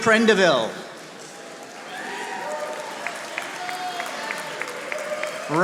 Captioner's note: audience applauding